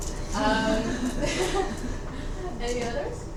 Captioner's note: students chuckling